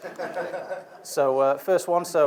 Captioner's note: audience laughs